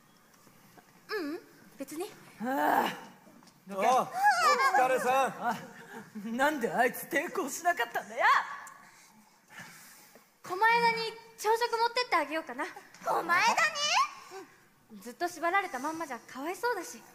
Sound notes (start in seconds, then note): 2.4 groan